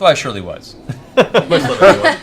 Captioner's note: laughter